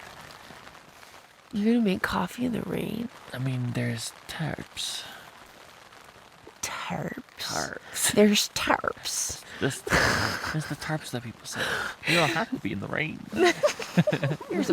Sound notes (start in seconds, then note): 5.4 "Tarps" said in an odd accent; 13.3 both laugh